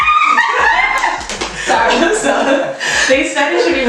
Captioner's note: screams